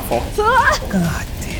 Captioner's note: Kat exclaims